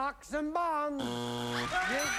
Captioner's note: buzzer